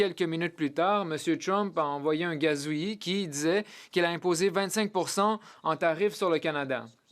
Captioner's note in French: voix de l'interprète